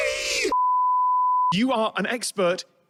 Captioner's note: high pitched beep tone